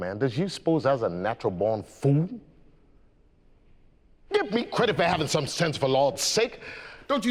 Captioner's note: none